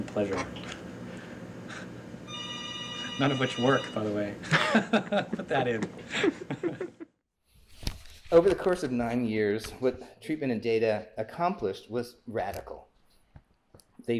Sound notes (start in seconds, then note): 2.2 phone ringing; 4.4 laughing